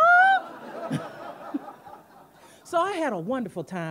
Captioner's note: audience laughing